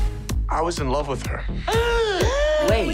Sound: gasping

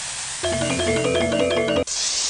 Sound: hot metal hissing; bingbongbingbongbingbongbingbongbingbongbingbong; hot metal hissing

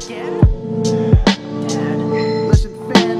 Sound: sighs

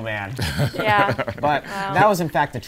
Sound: laughing

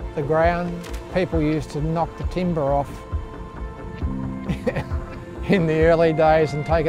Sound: laughs

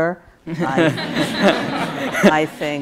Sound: audience laughs

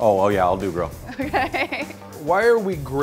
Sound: laughs

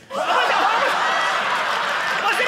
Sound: audience laughing

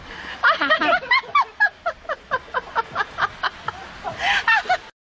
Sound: out of breath

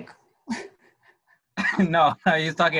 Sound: laughter

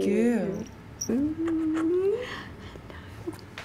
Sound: kiss noises

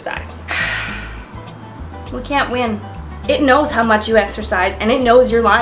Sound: sighs

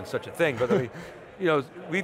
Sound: giggles

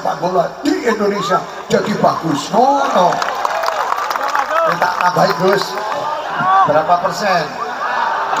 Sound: applause

